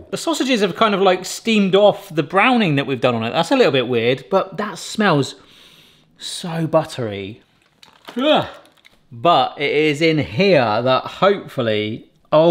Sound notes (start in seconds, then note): 6.0 sniffs